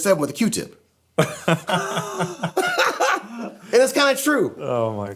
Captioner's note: group laughing